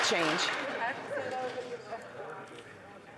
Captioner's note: some Applause